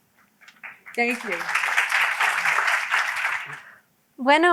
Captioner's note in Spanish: aplauso